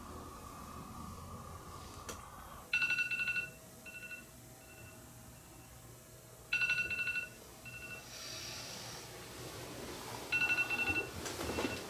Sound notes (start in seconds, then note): 2.5 2nd alarm going off